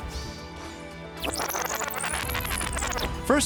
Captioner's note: rewind noise